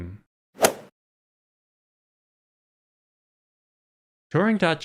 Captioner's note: golf ball hit sound